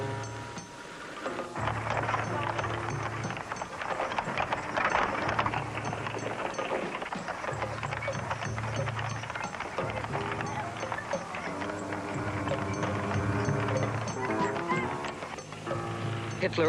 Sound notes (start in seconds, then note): 1.9 horses galloping; 13.1 unsettling music continues